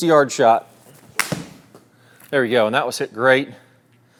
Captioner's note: club striking